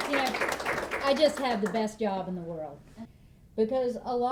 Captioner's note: clapping